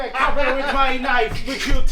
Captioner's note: laughter